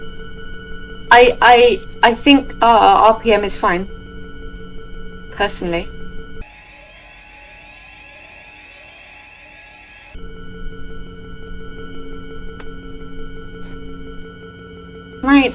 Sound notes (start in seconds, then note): 5.7 flashback to every alarm going off at once